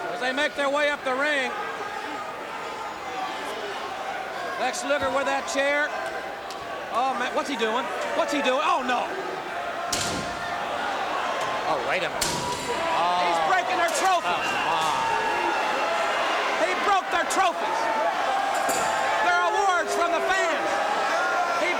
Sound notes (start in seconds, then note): 14.8 crowd cheering